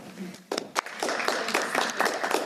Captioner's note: clapping